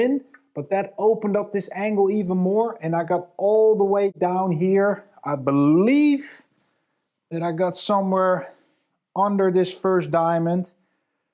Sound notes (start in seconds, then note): none